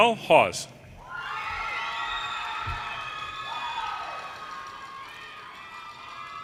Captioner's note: audience cheers and applause